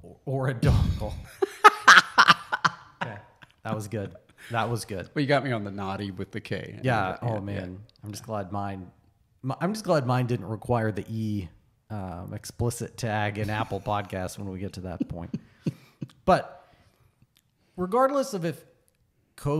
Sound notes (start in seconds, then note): 0.6 laughs